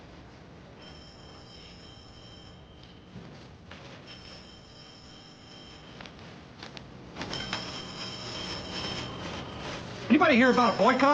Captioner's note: telephone ringing